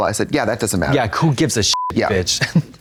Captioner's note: beep